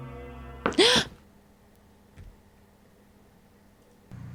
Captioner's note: Eve gasps